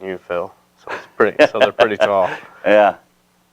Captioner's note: laughing